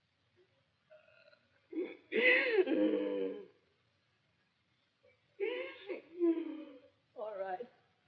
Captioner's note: sobs